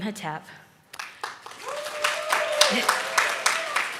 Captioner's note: audience claps